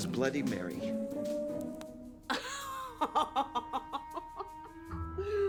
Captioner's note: laughing